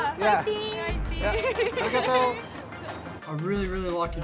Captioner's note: laughter